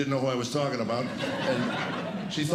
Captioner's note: laughter